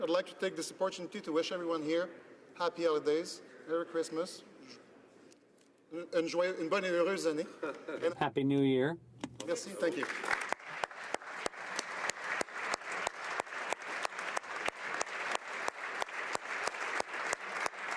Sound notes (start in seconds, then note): 10.0 speaking French; 15.9 some Applause